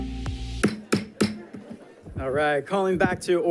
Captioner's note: gavel pounding